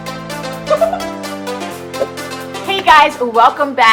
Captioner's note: upbeat music; giggles